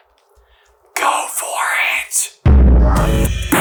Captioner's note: stage whisper; outro Theme Music